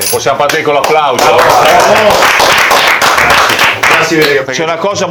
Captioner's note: applause for the chef